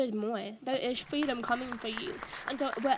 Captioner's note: audience applauds